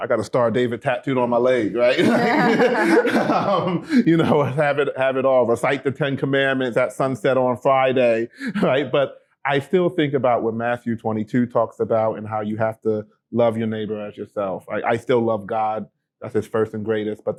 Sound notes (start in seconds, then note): 1.6 group laughing